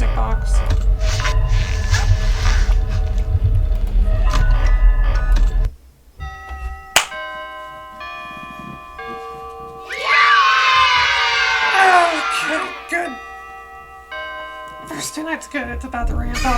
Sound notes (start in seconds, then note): 6.9 bells Chiming and children screaming Yay!